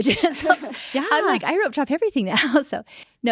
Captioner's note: all laughing